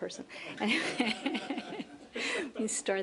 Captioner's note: laughter